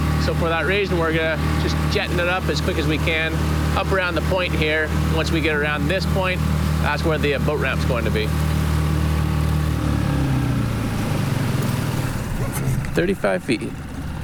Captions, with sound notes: so for that reason, we're just jetting it up as quick as we can up around the point here. Once we get around this point, that's where the boat ramp's going to be. (engine purrs) 35 feet.